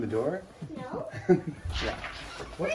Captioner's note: laughs